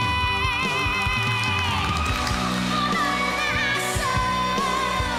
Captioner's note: cheering, applauding